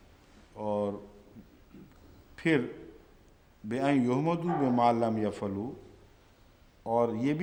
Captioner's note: Arabic